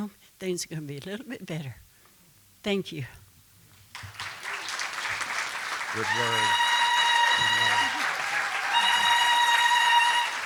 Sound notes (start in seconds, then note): 3.9 applause; 7.3 applause, whooping sounds